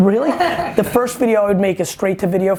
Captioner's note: laughing